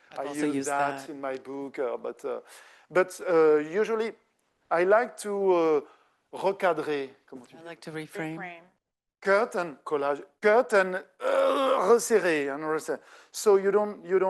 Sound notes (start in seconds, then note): 5.8 speaking French; 11.2 dramatically clears throat; 11.4 speaking French; 13.0 speaking French